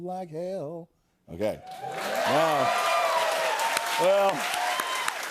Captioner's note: cheers and applause